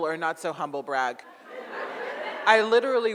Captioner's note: audience laughs